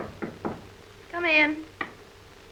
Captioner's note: knocking